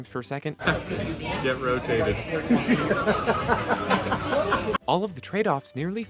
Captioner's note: laughter